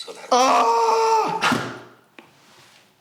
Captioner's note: grunts